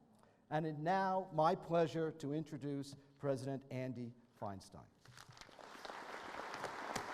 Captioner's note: applause